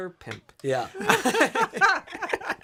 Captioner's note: laughter